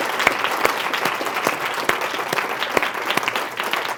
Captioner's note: applause